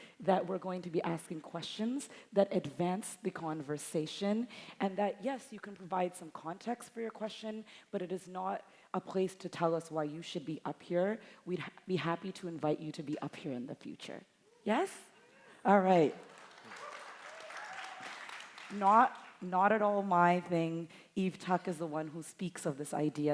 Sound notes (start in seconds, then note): 16.2 audience applauding; 16.2 audience cheering